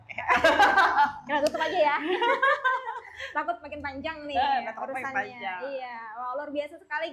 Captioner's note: laughs